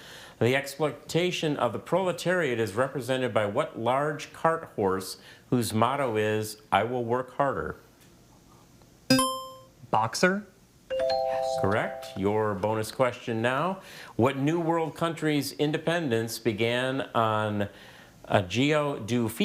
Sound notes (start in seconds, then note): 9.1 buzzer chimes